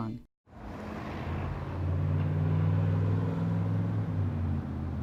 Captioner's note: motor rumbling